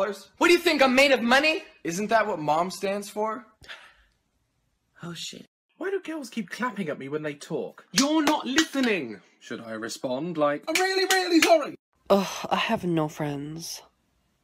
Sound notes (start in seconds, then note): 7.9 clapping; 10.7 clapping